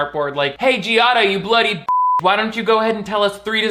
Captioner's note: beep